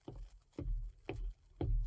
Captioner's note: footsteps